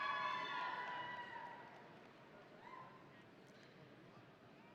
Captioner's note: audience cheering